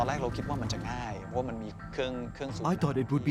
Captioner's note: speaking Thai